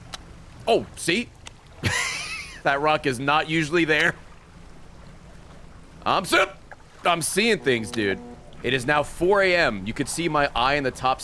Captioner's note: laughs